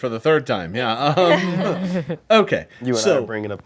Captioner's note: group laughs